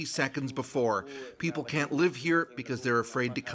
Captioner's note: foreign language